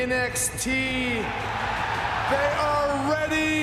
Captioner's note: crowd cheering